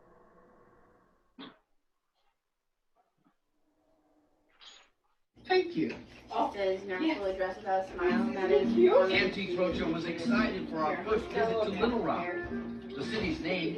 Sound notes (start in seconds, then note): 8.7 people chattering in background